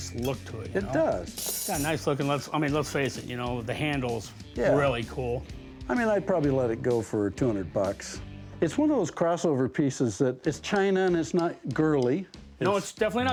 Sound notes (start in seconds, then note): none